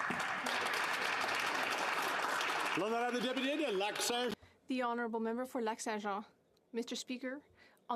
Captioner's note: speaking alternate language